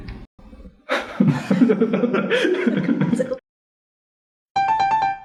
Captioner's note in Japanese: 笑い声